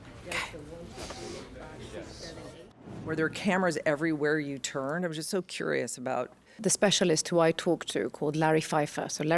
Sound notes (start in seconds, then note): 0.2 crowd chattering